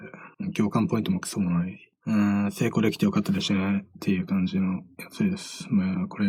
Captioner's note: emotionless